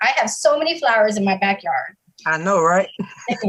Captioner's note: chuckling